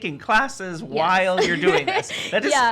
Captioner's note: laughs